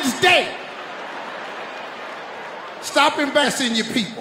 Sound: audience laughing

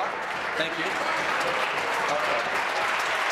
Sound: voice trailing

